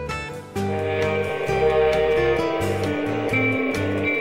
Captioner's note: train horn